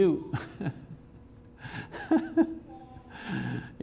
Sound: laughs

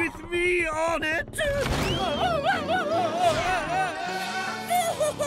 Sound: screaming

